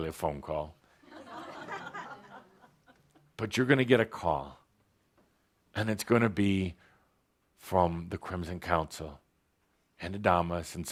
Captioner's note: laughter